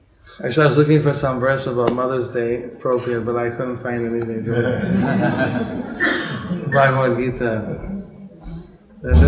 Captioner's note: laughter